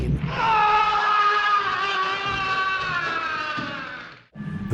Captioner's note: scream